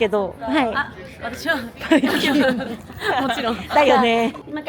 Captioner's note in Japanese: 笑い